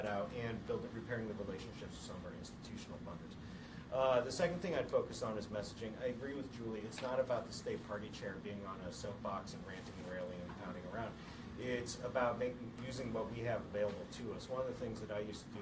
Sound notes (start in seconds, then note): none